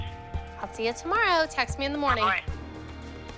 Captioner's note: on phone; on phone